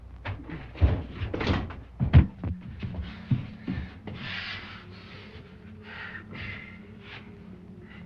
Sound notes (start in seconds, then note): 2.9 labored breathing